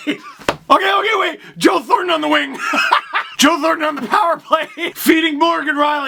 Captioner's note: laughter; laughter